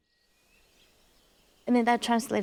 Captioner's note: birds chirping